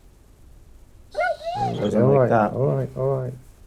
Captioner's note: Brody yelping